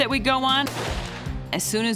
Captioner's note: gunshot